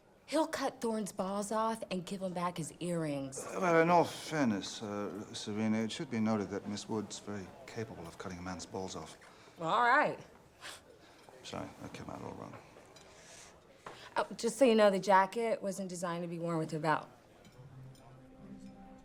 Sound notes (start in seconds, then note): 10.3 scoffs